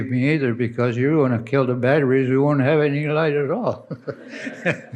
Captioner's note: laughs